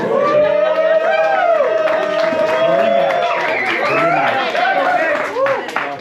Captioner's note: crowd cheering and applauding